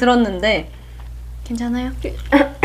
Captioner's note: coughs, then nods casually